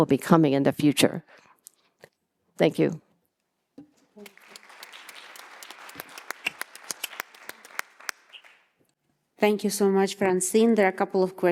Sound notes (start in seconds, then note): 4.1 audience applauding